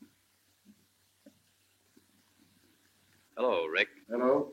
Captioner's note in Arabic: none